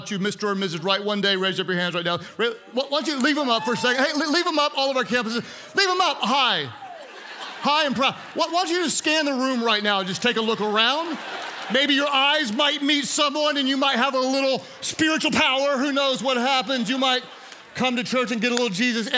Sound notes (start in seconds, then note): 4.0 congregants cheer; 7.7 congregants laugh; 11.3 congregants laugh